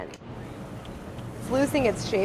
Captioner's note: sizzling